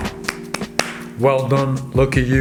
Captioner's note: claps hands